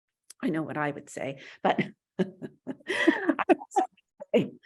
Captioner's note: laughs